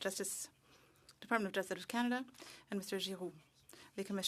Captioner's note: speaking French